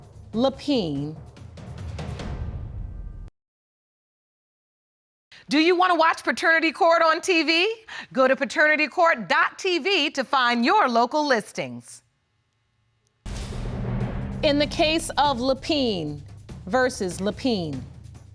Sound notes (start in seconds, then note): none